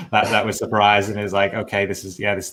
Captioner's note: laughing